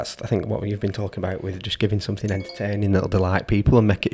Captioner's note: phone chimes